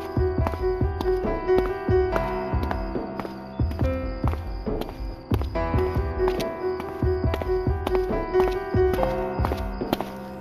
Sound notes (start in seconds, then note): none